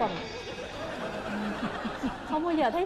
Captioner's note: laughing